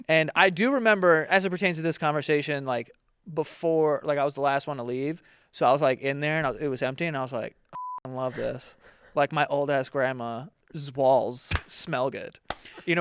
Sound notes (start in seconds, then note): 7.7 beep